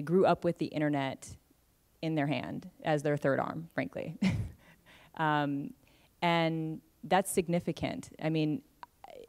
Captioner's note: laughs